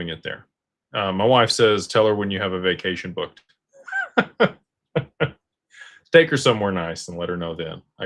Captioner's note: laughter